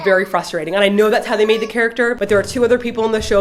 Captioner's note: baby cries